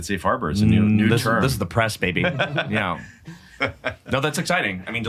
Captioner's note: chuckle